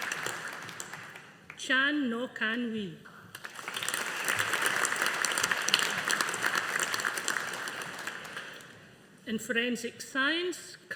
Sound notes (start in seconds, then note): 3.3 audience applauding